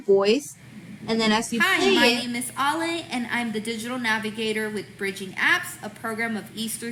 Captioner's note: recorded voice on app speaking